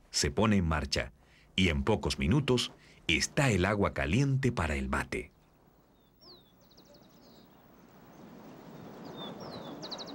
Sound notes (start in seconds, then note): none